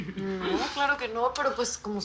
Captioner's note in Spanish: Risas